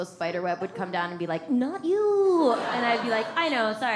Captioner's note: audience laughs